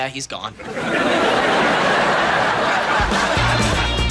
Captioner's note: audience laughing